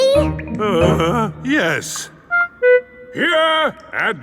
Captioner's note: groans